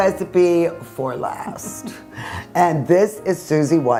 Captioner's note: chuckles